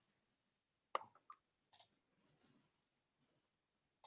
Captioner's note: quiet clicking